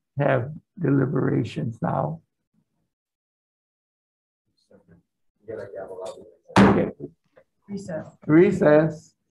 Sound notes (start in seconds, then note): 6.6 gavel bangs